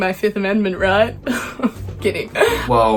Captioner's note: laughing